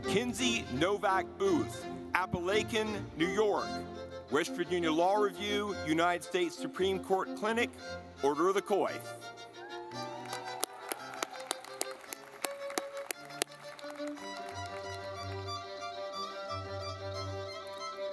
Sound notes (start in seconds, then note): 9.1 lively music; 9.8 audience clapping